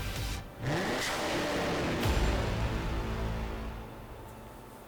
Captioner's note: engine revs